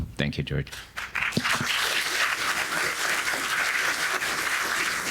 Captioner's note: audience applauding